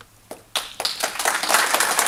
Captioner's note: applause